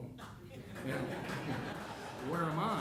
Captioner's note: audience chuckling